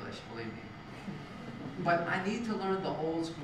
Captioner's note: laugh